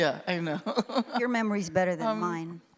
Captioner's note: laughs